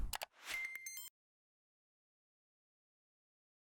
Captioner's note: beeping